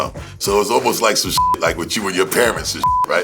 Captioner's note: beep; beep